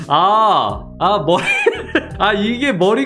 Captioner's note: laughing